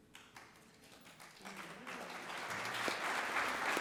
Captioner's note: audience applauds